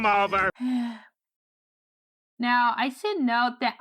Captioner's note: sighs